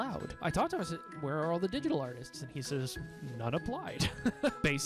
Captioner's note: laughing